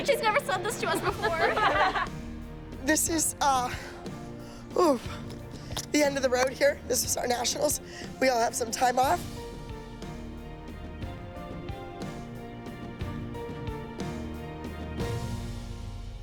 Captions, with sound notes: She's never said this to us before. (laughter) This is, uh-- ooh-- the end of the road here, this was our nationals. We all have some time off.